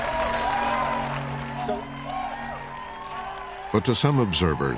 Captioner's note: applause and cheering